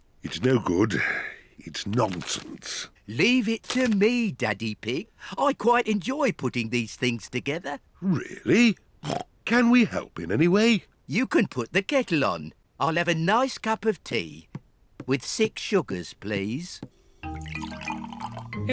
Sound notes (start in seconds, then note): 9.0 snorts